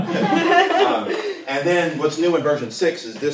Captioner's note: laughter